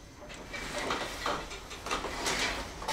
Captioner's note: clacking